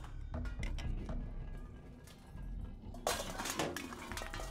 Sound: metal clatters

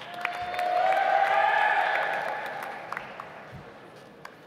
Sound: audience applauds

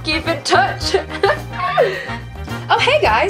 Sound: laughs

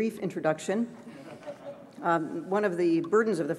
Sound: laughter

